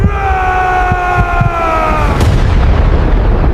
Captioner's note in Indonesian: berteriak